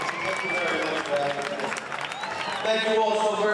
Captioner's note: audience cheers